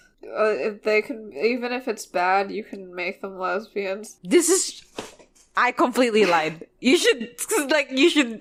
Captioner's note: laughs